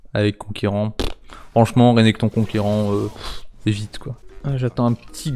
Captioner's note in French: soupir